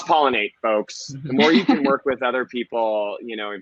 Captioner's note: laughing